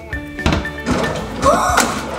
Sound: cabinet closing; drawer opening; gasps

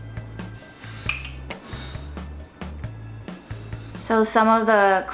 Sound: jazzy instrumental music; spoon clinking

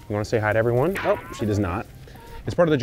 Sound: cartoon whooshing sound

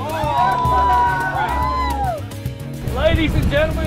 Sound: whale watchers cheer

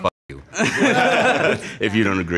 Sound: laughs

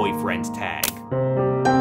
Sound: click; intense music

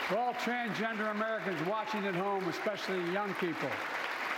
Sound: applause

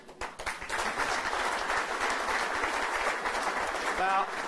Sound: applause

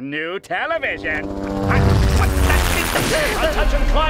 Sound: whirring

